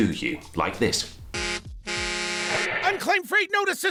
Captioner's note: beeping